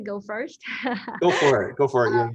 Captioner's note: laughs